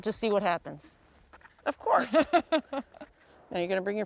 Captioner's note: laughs